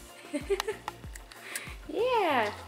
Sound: laughs

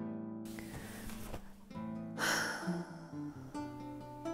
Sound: sigh

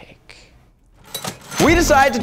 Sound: cash register rings

